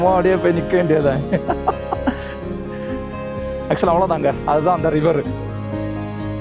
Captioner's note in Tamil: சிரிப்பு